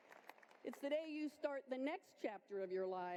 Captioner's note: cheering and applause